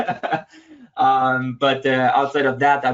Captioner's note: laughs